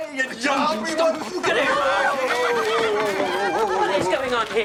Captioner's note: everyone clamoring